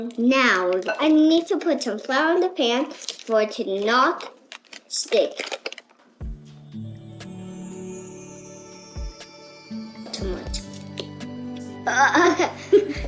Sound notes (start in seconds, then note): 6.3 magical chimes; 11.9 laughs